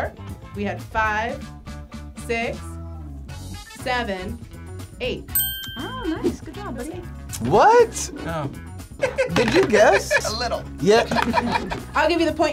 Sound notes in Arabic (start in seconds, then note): 5.3 قرع الجرس; 8.3 تضحك